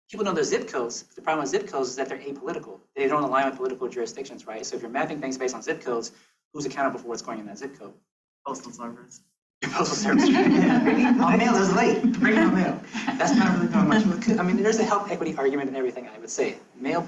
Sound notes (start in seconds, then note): 9.6 students laughs